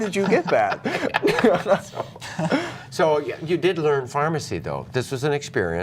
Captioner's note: laughter